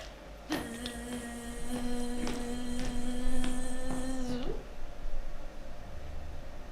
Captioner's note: makes a buzzing sound